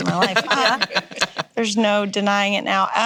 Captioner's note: laughing